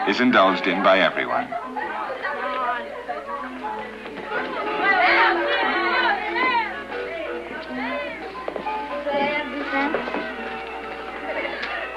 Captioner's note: happy chattering